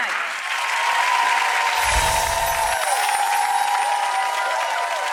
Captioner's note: audience applauding